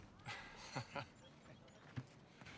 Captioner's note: laughs